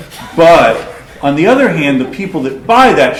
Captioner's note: laughter